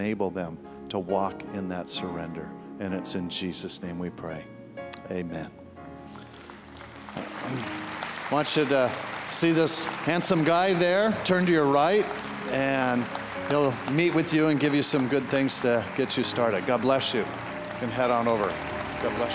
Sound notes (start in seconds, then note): 6.0 applause